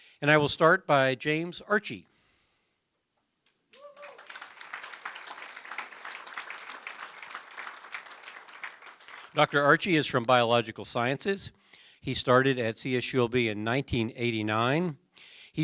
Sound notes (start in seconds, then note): 3.7 applause